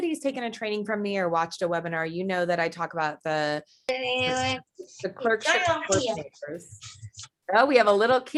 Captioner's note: background voice